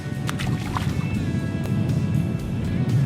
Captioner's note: splash